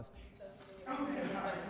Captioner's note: people chattering